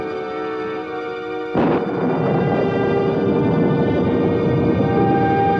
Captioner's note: thunder continues rumbling